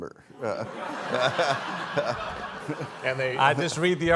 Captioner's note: all laughing